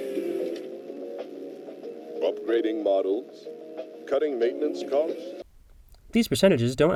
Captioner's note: audio from show